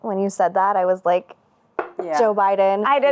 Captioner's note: knocks